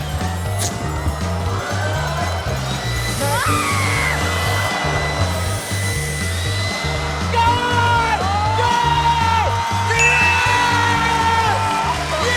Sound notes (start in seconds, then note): 3.1 anisa screams; 10.4 cheering and applause